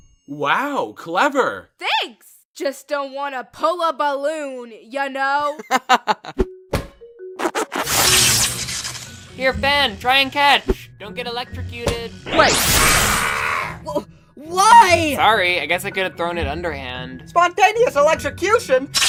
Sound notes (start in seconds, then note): 5.4 laughing; 7.2 rubbing; 7.4 electrical noise; 13.0 yelping